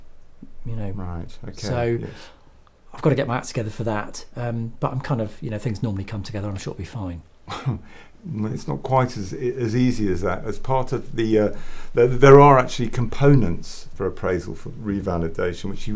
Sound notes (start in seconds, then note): 7.5 laugh